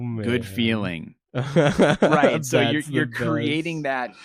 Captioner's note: laughs